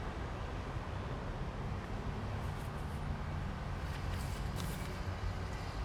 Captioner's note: light traffic sounds